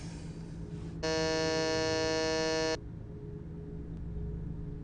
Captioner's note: doorbell buzzing; melodic haunting music